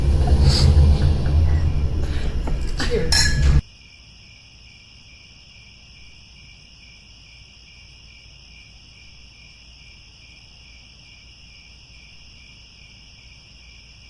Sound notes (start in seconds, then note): 4.2 crickets